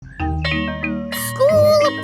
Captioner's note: school bell rings